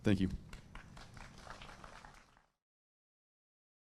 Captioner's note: applause